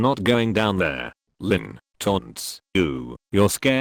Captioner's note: taunts